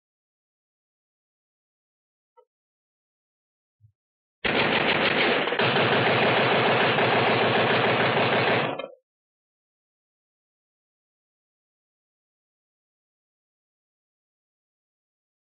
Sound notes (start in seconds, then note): 4.4 machine gun fire continues; 8.7 gunfire stops